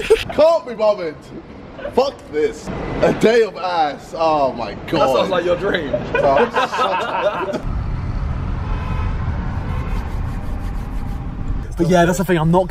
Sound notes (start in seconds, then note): 5.6 laughing; 7.6 car engine revving; 8.5 cars honking; 9.9 rubbing hands